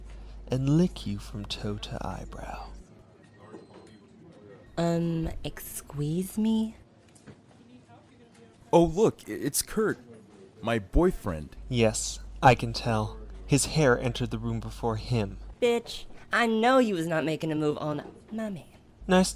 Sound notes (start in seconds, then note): none